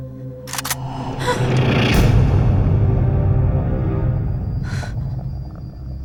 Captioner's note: gun clicks; Mary gasps